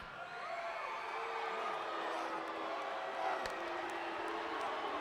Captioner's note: audience cheering